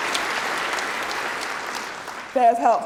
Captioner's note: cheering